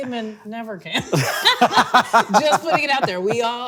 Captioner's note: both laughing